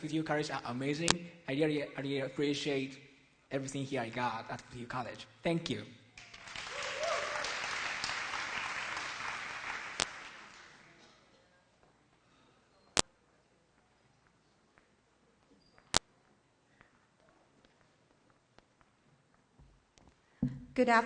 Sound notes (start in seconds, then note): 6.2 applause; 11.2 silence